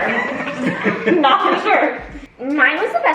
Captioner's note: family laughs